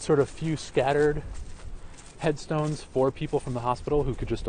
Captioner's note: voiceover